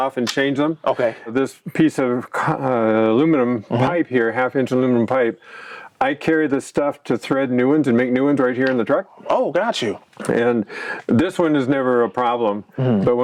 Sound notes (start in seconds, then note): none